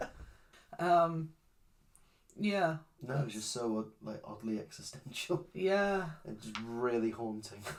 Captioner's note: chuckles